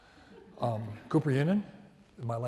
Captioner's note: audience laughs